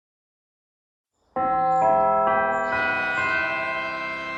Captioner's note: bell chimes